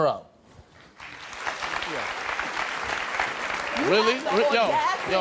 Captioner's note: audience applauds